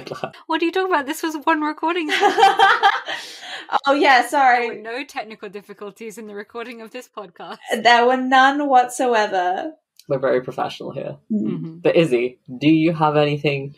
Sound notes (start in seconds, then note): 2.1 laughs